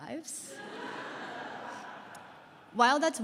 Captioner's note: laughter